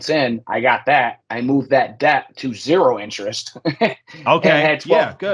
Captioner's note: laughs